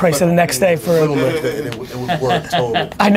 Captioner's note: laughing